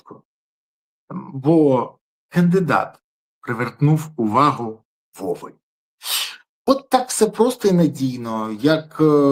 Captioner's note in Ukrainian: сопіння